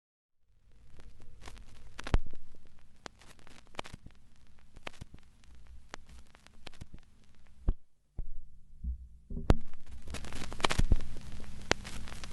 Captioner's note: intermittent static intensifies